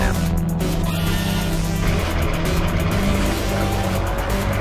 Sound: pod whirring

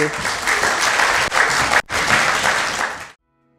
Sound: applause

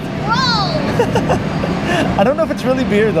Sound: laughs

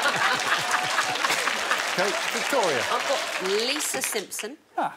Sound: all laughing; audience applauding

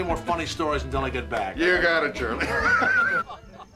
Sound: laughs

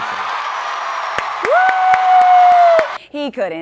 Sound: cheers

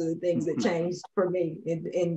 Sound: panelists laughing

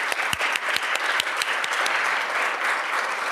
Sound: applause

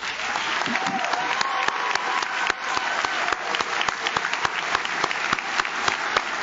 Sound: audience cheers; audience claps

